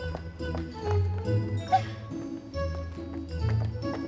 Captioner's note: squeaks